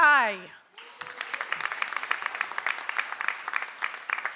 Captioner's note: audience applauds